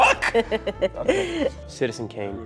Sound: laughs

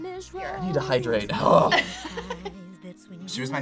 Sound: laughs

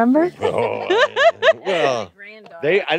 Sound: laughs

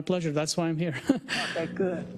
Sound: laugh

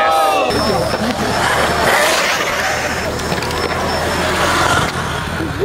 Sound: motor accelerates

